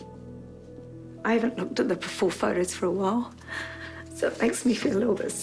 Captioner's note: breathes raggedly